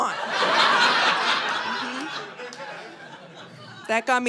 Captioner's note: audience laughing